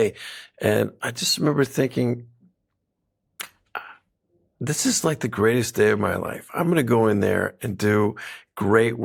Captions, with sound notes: And I just remember thinking... (CLICKS TONGUE) ...uh, this is like the greatest day of my life. I'm going to go in there and do great work today.